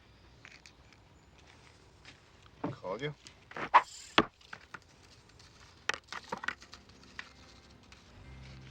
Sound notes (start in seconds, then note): 4.0 line whirring